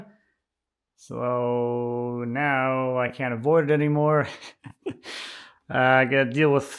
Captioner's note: laughing